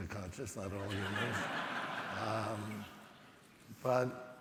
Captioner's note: audience laughing